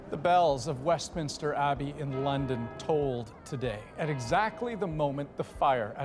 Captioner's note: bell ringing